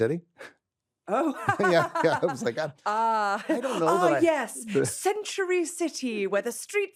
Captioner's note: laughs